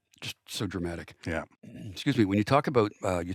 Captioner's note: clears throat